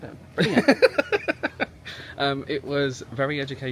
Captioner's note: laughing